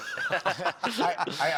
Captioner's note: laughter